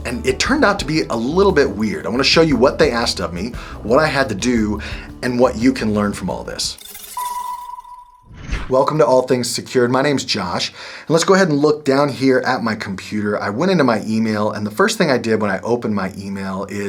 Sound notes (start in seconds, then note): 6.9 text chiming